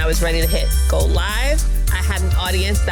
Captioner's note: bell dinging